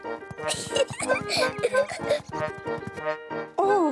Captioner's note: peppa pig laughs